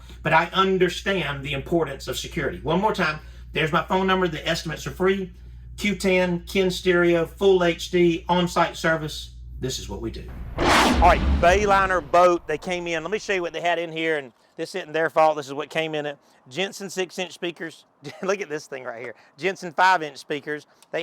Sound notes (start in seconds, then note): 10.3 whooshing